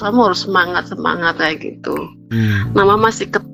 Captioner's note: berdehem